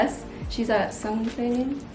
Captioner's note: speaks in foreign language